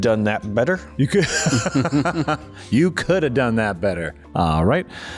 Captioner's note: laughter